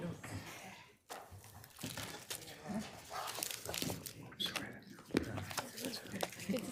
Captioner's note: regents chattering indistinctly